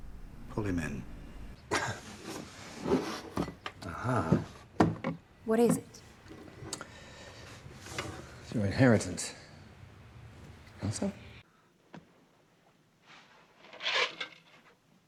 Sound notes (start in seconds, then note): 13.7 rattling